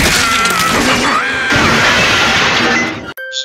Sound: crash

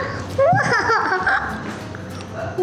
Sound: laughs

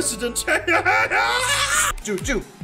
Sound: laughter

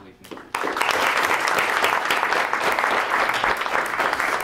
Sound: applause

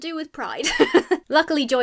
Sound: laughs

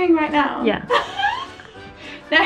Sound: laughs

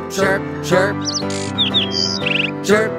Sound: bird chirping

